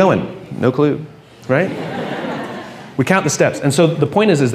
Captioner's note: laughing